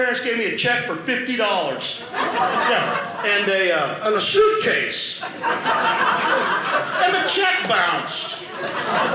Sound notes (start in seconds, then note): 5.2 audience laughing